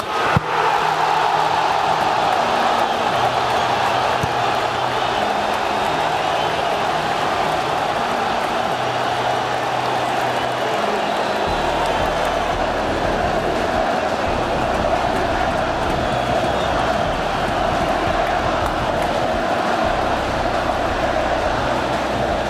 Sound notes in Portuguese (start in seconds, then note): 0.2 gritos de gol; 4.1 torcida celebrando